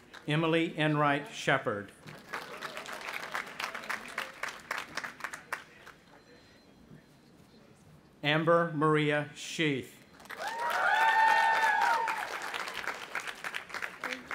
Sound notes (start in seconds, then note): 0.0 audience applauding; 2.0 audience applauding; 10.2 audience applauding and cheering